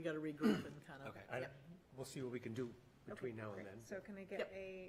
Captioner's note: clears throat